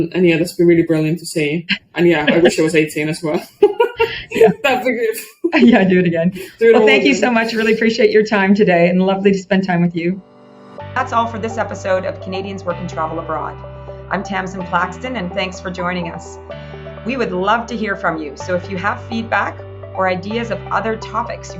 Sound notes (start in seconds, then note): 1.8 laughs; 10.2 gentle music